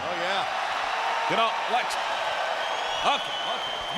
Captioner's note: audience cheering